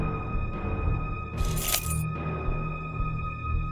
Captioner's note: the ringing of keys